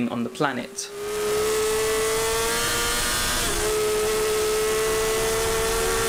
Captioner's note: motorcycle engine roaring